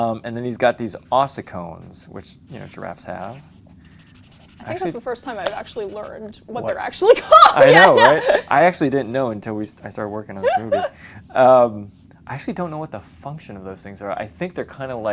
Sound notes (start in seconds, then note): 7.0 laughs